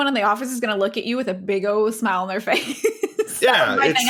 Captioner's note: laughs